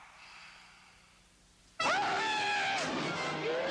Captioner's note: undead screaming